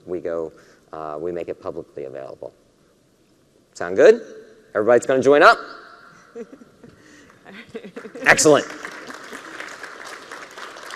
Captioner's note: cheering and applause